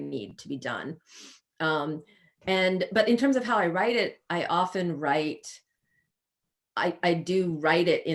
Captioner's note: sniffs